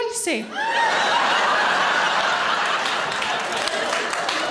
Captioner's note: audience laughing